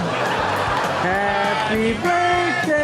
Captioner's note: audience laughs